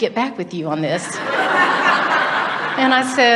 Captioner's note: audience laughs